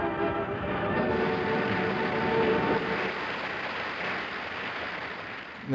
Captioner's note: music ends, applause